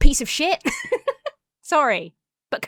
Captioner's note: laughs